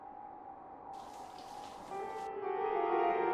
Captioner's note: water spraying; ominous piano music